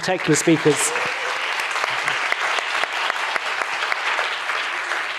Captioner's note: audience applauding